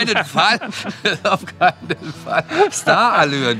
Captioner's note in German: lachend